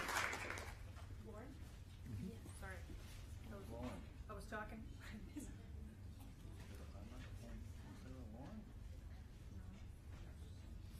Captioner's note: applause